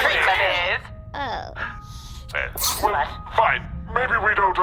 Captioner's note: the council makes dismayed noises, Kassu baby-sneezes